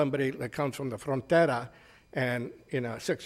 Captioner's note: speaks foreign language